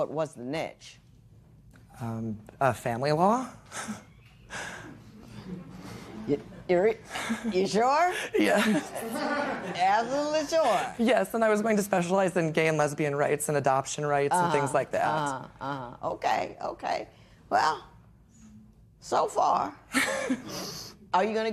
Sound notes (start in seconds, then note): 5.1 chuckles; 8.0 laughing